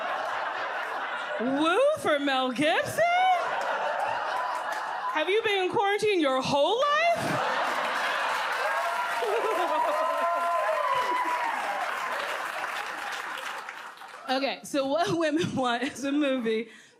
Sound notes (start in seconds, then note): 3.7 audience laughs; 7.1 audience laughs, claps